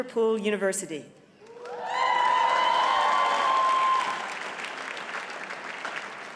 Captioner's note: audience cheers and applauds